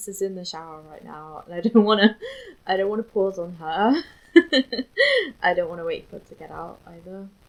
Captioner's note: laughs